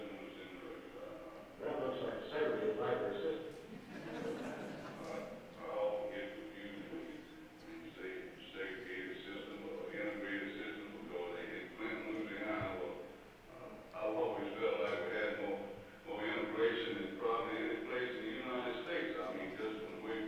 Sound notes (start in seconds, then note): 3.6 audience laughing